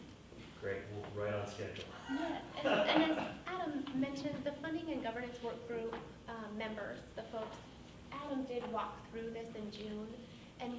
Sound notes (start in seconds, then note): 2.0 laughs